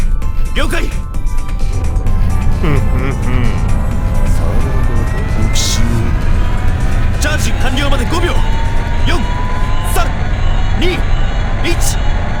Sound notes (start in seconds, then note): 2.6 chuckle